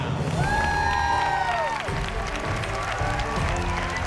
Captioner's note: crowd cheering